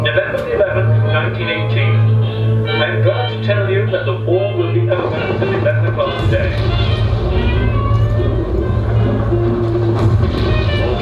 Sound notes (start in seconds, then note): 6.6 SFX - Guns and Explosions